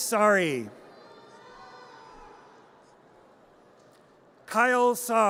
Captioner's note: audience cheers